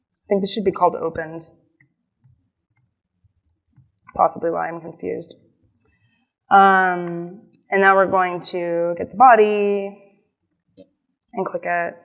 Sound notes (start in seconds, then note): none